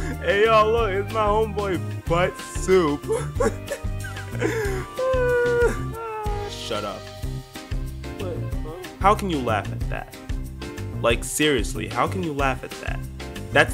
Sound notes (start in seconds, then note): 3.1 goofy ahh laughter